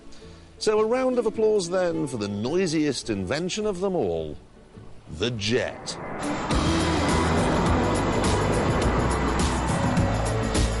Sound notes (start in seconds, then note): 8.1 jet engine roars